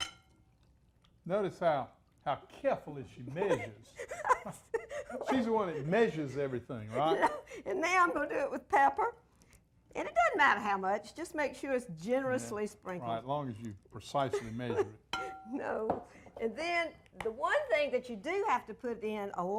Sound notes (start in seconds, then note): 3.4 giggling